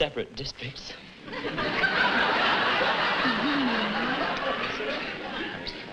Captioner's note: laughter